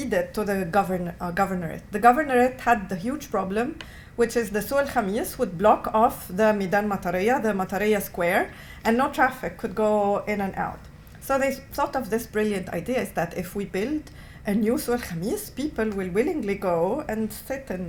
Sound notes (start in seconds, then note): 4.7 non-english; 14.9 non-english